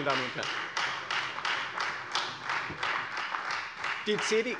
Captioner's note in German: Beifall Freie Demokraten